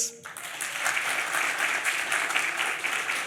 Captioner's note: applause